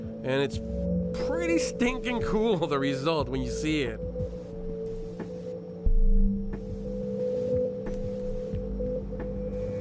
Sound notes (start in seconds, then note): 4.8 tool beeping; 6.6 pipe hissing